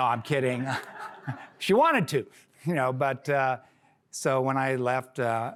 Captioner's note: laughter